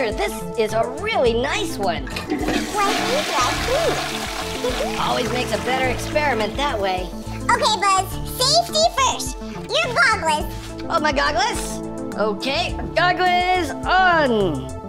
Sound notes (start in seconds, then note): 2.1 toilet flushing; 4.5 giggles